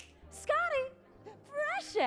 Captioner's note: fingers snap